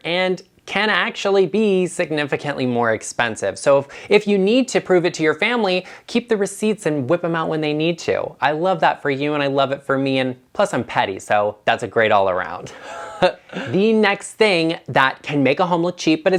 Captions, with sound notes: and can actually be significantly more expensive. So if you need to prove it to your family, keep the receipts and whip 'em out when they need to. I love that for you, and I love it for me, and plus, I'm petty, so that's great all around. (laughs) The next thing that can make a home look cheap